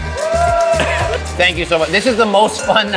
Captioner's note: crew cheers